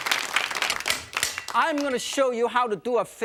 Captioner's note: knife banging